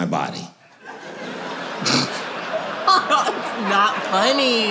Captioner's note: laughing